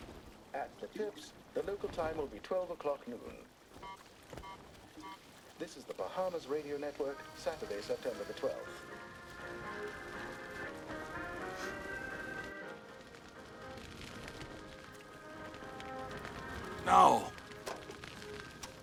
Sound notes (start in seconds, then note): 3.8 beeping; 11.2 sniffs